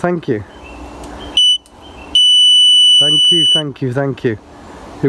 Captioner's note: beep